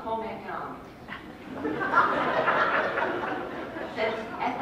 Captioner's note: laughter